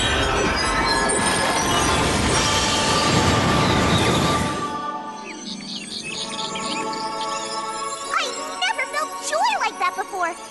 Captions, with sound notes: [ Animals chattering ] I never felt joy like that before.